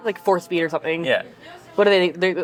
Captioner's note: none